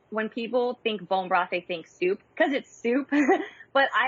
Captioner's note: giggles